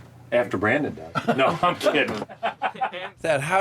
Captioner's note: laughter